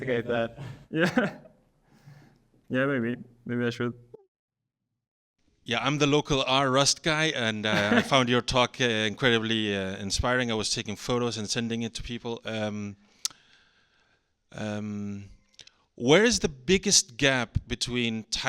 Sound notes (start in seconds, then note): 0.9 chuckles; 7.7 chuckles